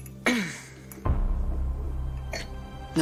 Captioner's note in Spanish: Diana carraspea